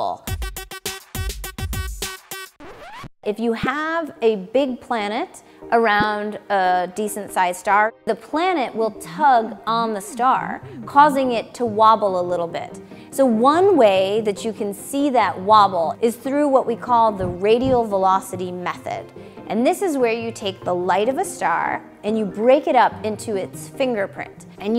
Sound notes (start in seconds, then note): 0.2 dance music; 2.5 record scratch